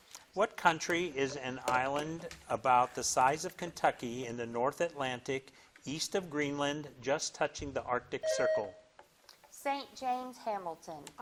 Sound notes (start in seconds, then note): 8.2 bell dings